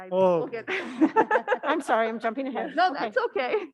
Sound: panelists laughing

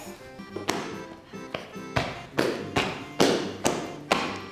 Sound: feet stomping

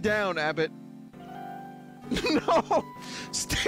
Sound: chortling

